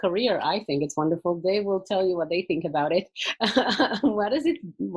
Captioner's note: laughing